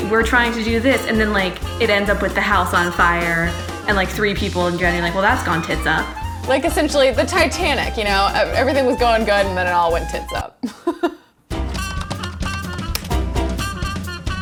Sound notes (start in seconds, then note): 10.6 laughs; 11.5 upbeat music